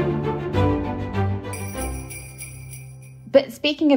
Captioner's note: theme music; bell ringing